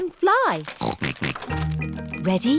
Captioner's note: snorting